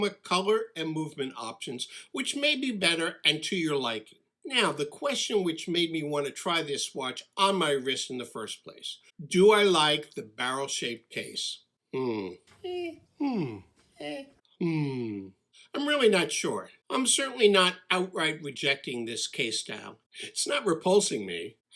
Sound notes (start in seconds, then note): 13.1 hmm’ing, Eh’ing